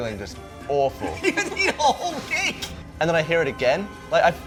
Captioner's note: laughing